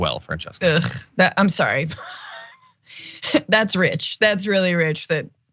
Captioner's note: laugh